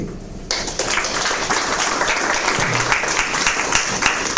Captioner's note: audience claps